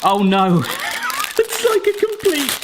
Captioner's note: wheezing